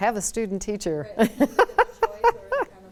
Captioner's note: laughs